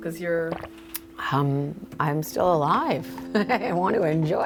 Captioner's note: laughing